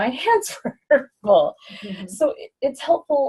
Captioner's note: laughs